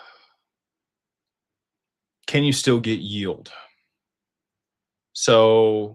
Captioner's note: sighs